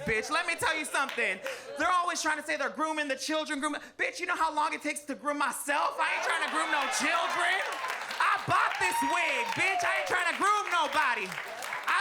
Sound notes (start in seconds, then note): 5.9 audience laughs and claps